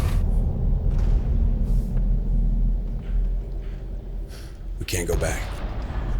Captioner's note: bombs rumbling